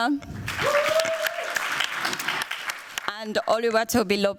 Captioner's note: cheers, applause